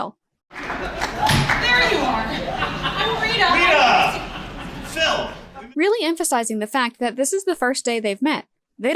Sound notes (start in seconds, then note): 1.2 door closes